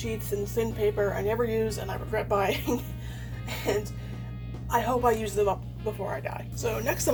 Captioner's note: laughs